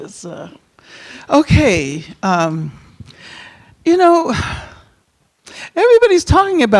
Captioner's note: sighs